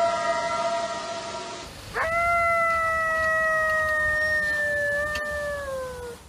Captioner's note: eerie howl; coyote howls